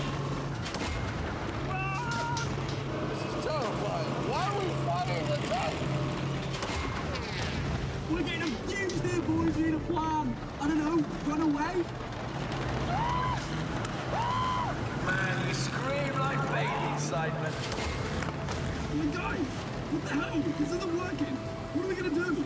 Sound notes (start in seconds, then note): 12.7 shrieks